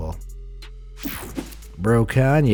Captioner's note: air whooshing